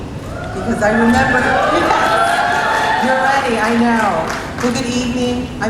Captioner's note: laugh